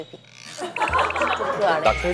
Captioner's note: trembles